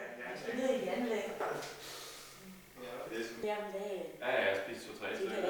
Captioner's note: indistinct conversation